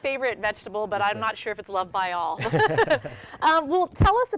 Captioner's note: laughs